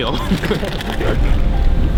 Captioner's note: all laugh